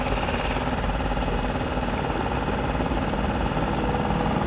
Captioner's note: boat engine chugging